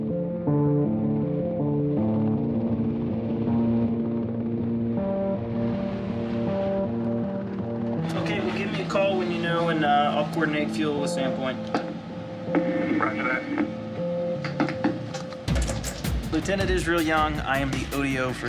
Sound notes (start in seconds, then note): 0.1 somber music; 13.3 radio Transmission